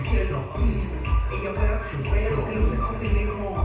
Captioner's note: none